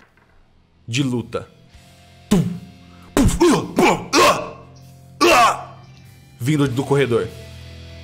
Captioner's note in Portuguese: urgh